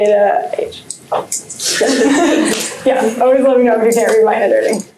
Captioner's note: laughter